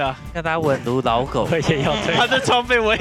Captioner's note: laughs